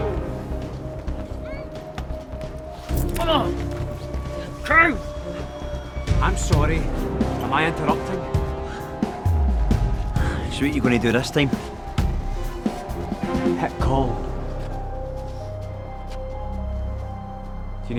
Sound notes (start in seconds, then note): 0.2 ominous orchestral music; 3.0 fleshy tearing; 16.4 tense music